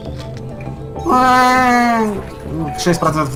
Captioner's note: A cry of a space whale in heat